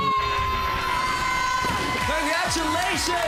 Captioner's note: applause, cheering